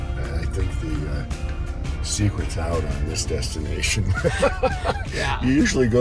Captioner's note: laughing